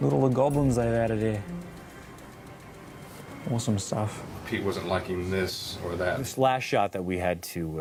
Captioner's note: none